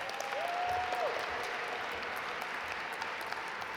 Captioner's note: audience applaud